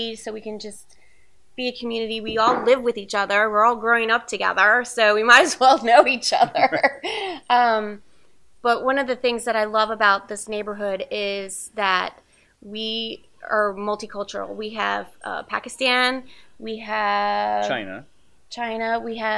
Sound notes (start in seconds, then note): 6.0 laughs